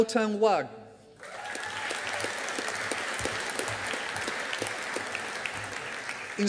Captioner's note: audience applauding